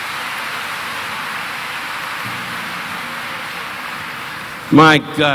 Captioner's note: audience applauding; audience cheering